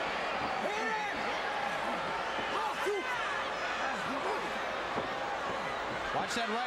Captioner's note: crowd chattering